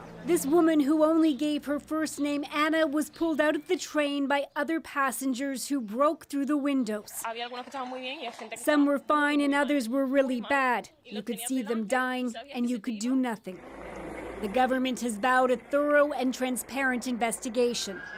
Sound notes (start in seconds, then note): 8.3 speaking alternate language